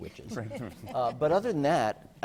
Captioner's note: laughter